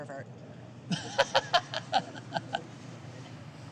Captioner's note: laughs